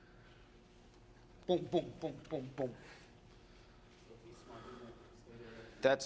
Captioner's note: making shooting sound while demonstrating